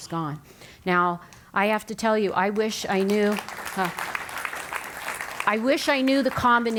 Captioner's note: applause